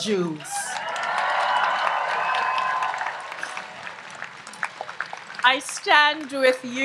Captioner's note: audience applauds and cheers